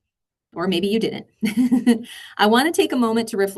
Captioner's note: giggles